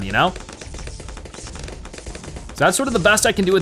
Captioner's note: weapons firing